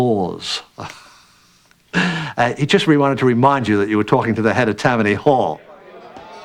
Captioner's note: chuckles